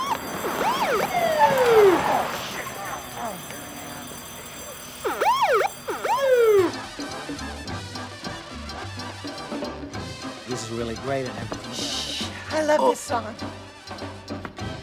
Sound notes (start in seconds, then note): 0.0 siren whoops; 5.3 siren